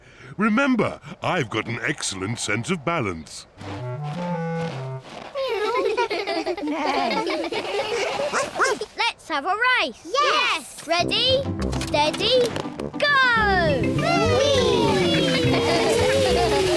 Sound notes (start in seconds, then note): 0.0 laughs; 5.3 all laugh; 7.9 barks; 14.4 giggling